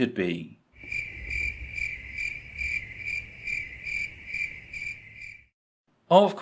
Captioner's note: cricket noises